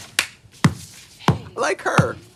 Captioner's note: Trixie clapping and tittering; Katya slapping couch